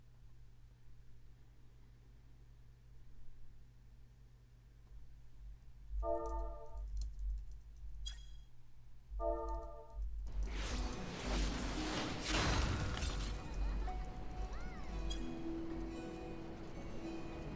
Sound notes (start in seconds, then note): 6.8 sounds of typing; 12.9 crowd noises